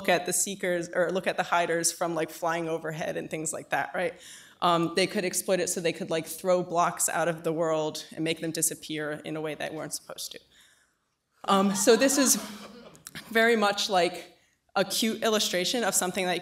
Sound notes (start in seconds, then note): 11.5 chuckling